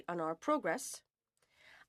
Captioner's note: speaking French